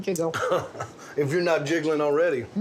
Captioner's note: laughing